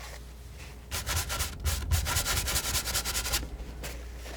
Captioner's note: scratching